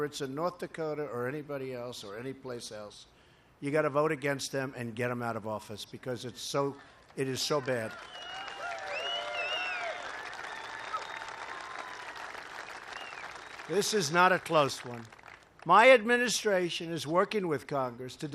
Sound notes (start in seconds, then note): 11.0 applause